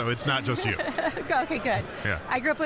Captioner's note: laughing